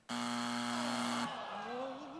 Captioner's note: buzzer